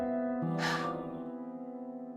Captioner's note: Serena exhales